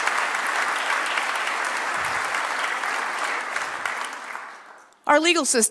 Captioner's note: applause